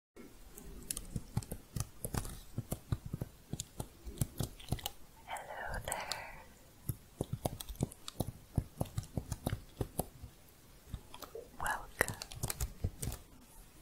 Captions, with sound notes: [quick typing sounds] hello there [typing continues] welcome